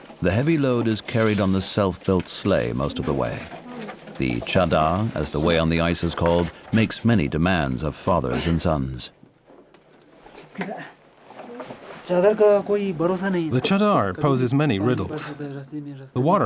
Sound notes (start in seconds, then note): 12.0 speaking foreign language